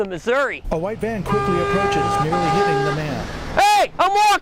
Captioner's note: revving engine, van honking